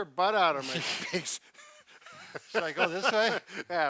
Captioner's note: chuckles